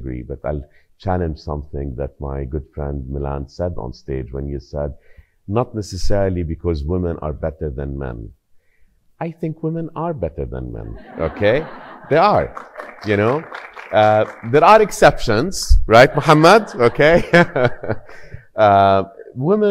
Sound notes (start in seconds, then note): 10.9 audience laughing; 13.5 audience applauding; 16.1 chuckling